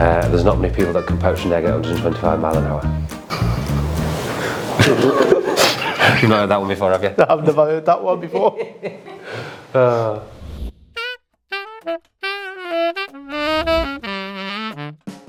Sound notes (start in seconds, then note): 4.6 laughter; 8.2 laughter